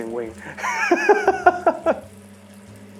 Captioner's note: laughs